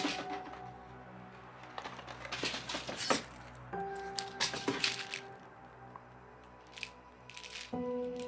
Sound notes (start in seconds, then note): 2.9 pills clattering